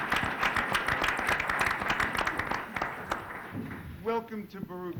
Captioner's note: applause